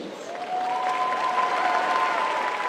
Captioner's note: applause